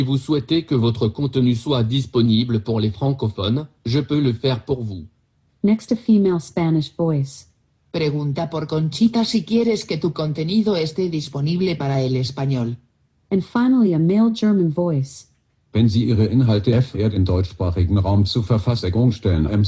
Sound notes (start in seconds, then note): 0.2 speaking French; 11.1 speaking Spanish; 18.6 speaking German